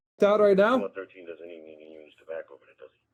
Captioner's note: radio chatter